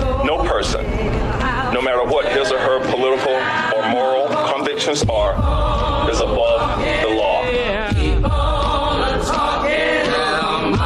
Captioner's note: recording of male voice